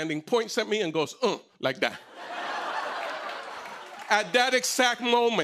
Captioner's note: laughter